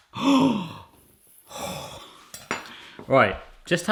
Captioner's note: gasps